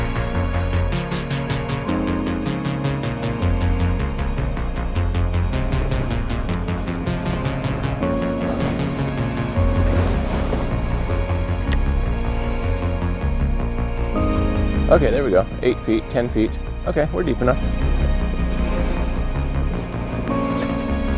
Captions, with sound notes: (light music) (fishing rod clinking) Okay there we go, eight feet, 10 feet, okay, we're deep enough.